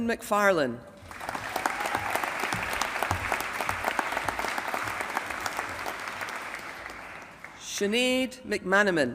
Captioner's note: applause